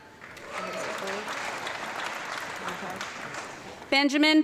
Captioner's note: audience clapping